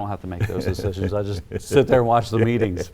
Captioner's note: chuckles